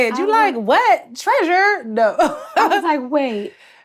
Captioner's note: laughs